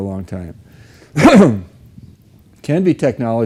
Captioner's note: clears throat